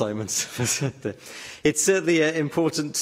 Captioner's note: laughter